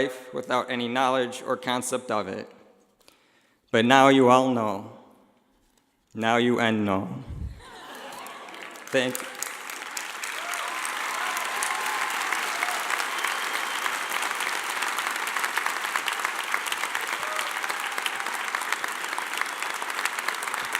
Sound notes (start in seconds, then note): 7.6 laughing; 9.7 clapping